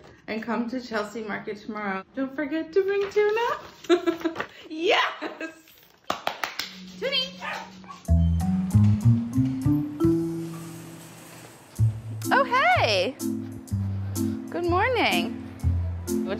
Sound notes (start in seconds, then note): 3.8 laughs; 6.0 clapping; 8.4 upbeat music